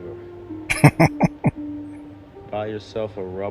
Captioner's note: chuckling